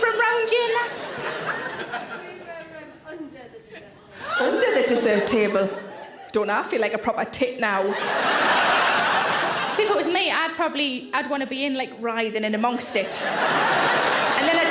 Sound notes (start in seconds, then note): 4.6 audience member gasps; 7.8 audience laughs; 12.9 audience laughs